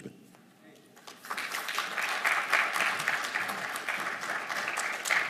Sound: audience applauding

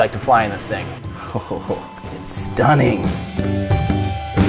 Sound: laughs; smooth rock music

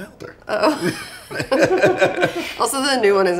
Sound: both laugh

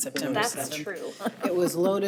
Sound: chuckles

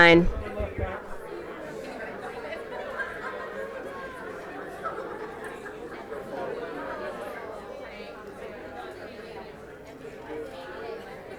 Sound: crowd chatter

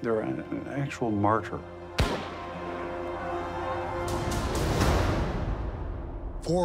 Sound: gunshot

